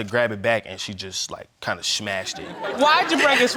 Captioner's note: audience laughs; laughs